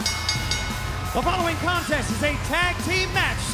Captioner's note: bell ringing